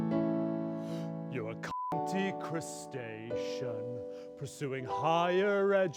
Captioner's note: beep